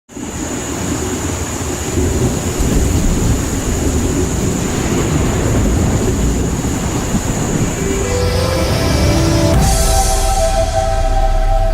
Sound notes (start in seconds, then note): 0.2 rain falling heavily; 7.6 peaceful music